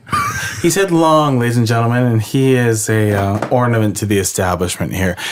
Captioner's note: laughs